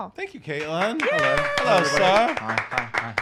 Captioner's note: applauding